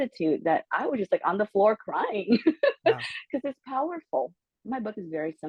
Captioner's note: laugh